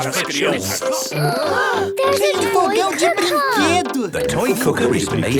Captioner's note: gasps